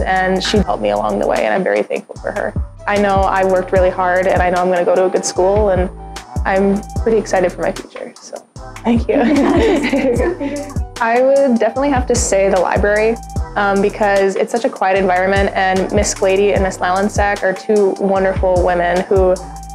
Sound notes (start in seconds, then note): 9.0 laughs